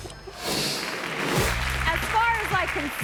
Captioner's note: audience applauding